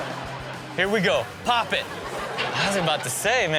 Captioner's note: audience laughs